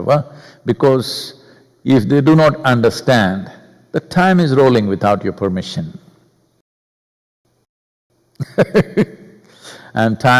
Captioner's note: laughs